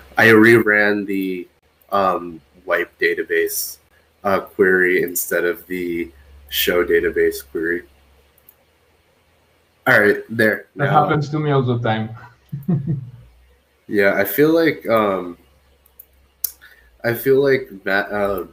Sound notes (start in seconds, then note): 12.2 laughs